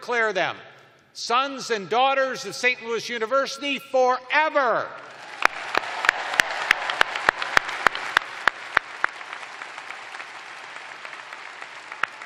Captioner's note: cheers and applause